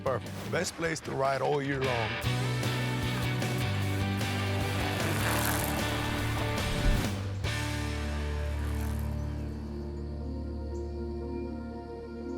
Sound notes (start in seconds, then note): 5.2 tires spinning; 11.3 gentle music; 12.1 birds chirping